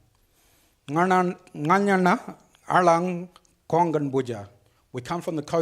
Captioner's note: speaks foreign language